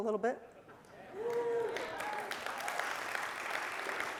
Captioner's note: cheering and applause